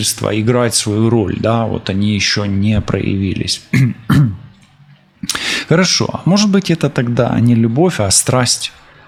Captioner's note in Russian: откашливается